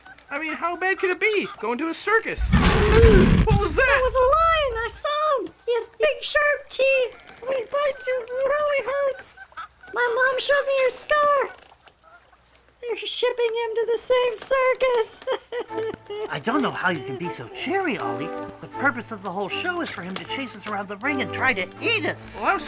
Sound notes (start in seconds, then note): 2.4 lion roaring; 16.9 crying